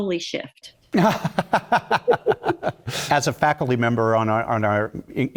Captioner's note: laugh